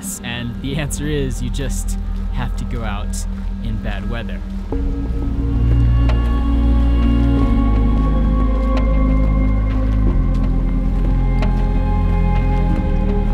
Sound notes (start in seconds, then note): 4.7 footsteps; 4.8 intense upbeat music